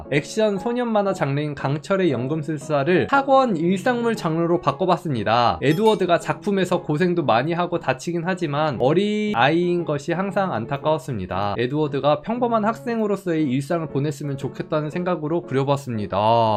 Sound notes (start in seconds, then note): 5.6 voiceover